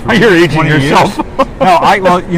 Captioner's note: laughs